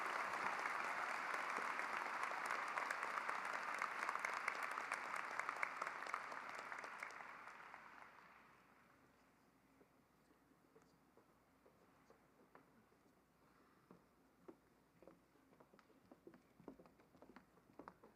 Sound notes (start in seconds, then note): 5.4 applause